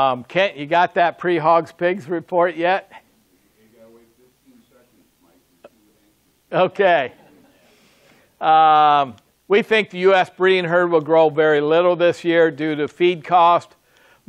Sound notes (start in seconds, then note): 7.1 audience laughs